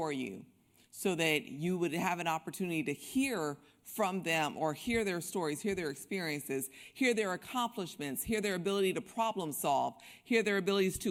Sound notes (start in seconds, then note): none